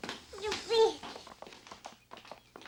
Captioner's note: baby cooing